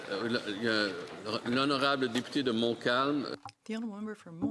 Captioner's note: some Applause